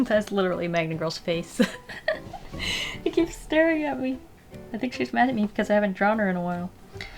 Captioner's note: giggle